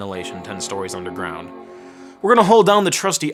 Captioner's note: computer dinging